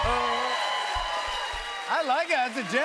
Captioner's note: cheers and applause